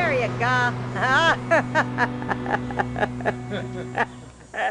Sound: laughing

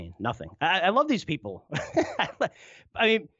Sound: laughs

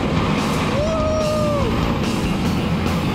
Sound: cheers

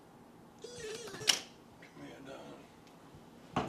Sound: CD scratching

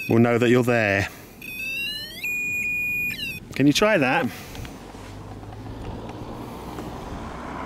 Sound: sound of the device

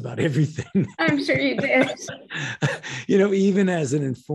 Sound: both laughing

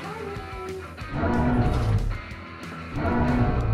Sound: dinosaur roars

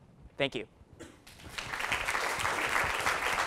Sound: applause

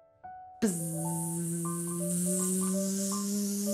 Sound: buzzing

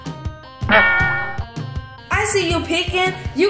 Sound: boinging crash

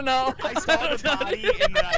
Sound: laughing; laughter

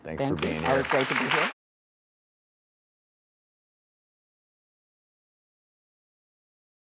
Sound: audience applauding

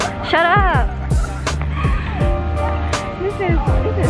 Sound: laughter

